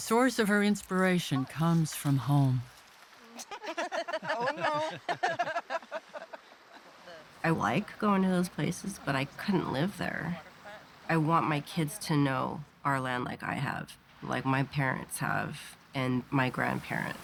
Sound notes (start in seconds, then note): 3.3 all laughing; 5.4 laughing